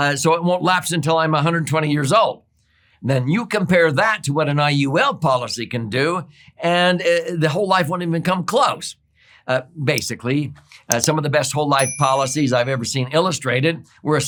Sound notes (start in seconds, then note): 10.8 mouse clicking; 11.8 bell dings